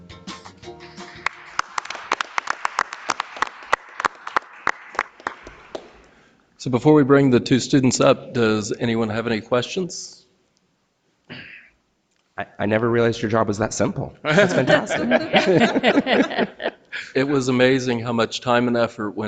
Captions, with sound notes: (audience applauding) - So before we bring the two students up, does anyone have any questions? - I never realized your job was that simple. That's fantastic. (board members laughing) - It was amazing how much time and effort